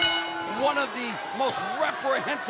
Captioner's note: bell ringing